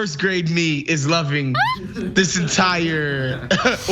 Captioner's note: laugh